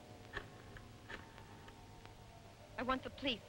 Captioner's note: rotary phone dialing